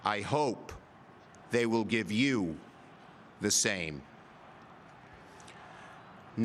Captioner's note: cheering